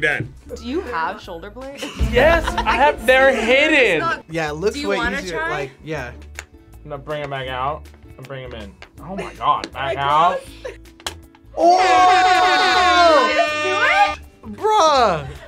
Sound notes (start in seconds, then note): 10.7 can clicks; 12.4 air horn blares